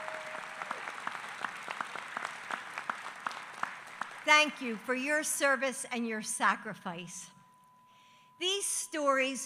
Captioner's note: applause